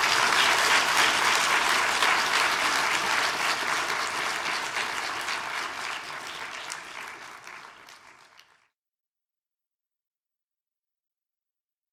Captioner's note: applause